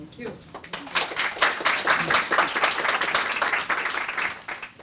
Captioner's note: applause